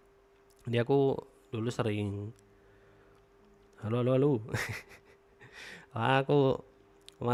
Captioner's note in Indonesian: tertawa